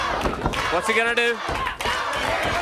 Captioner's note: crowd cheering